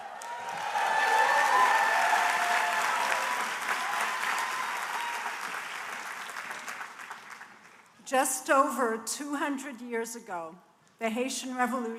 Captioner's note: cheers and applause